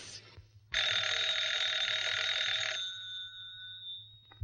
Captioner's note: phone rings